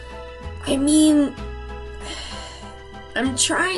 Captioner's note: sighs